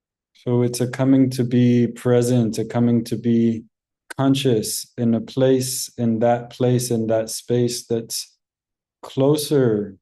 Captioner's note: in Hebrew